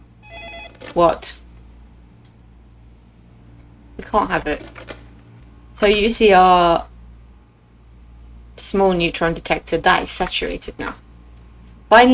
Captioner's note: slams down phone